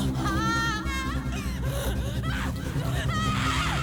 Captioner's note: suspenseful music; screaming